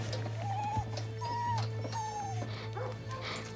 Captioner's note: whimpering